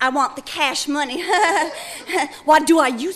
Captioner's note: chuckling